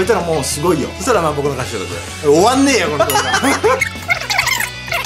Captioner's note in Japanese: キンポヨヨン音